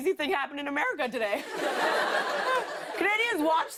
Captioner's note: laughter